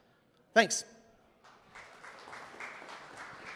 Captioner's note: applause